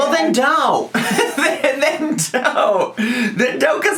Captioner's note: laughs